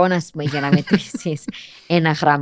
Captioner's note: he laughs